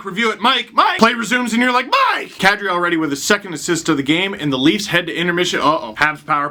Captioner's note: exacerbated tone